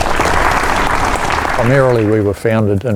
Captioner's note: applause